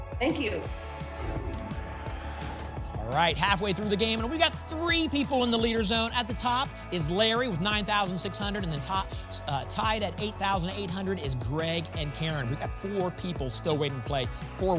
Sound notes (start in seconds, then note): 1.1 whoosh